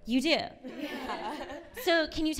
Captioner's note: laughing